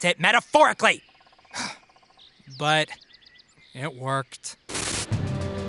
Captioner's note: sighs